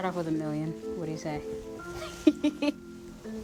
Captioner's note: laugh